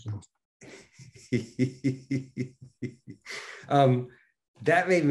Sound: Denis laughing

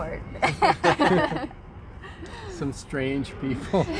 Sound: laughter

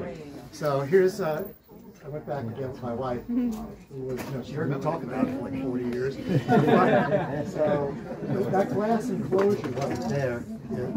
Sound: laughter

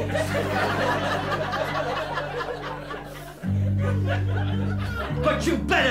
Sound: laughter

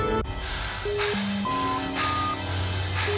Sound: beeping

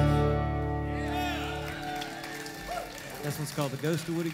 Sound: clapping

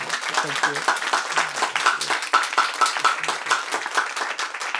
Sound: crowd applauds

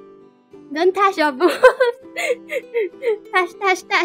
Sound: laugh

